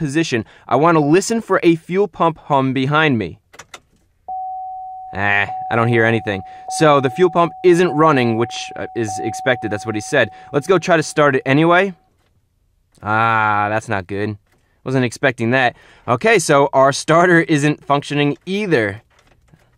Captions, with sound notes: I want to listen for a fuel pump hum behind me [standard chime in all american vehicles, but no hum] Eh, I don't hear anything. So the fuel pump isn't running which is expected. That's what he said Let's go try to start it anyway [silence] Ahhh, That's not good. I wasn't expecting that. Okay, so our starter isn't functioning either